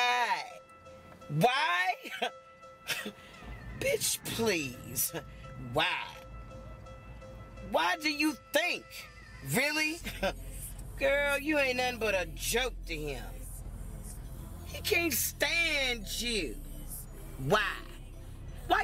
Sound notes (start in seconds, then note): 2.9 Crystal chuckles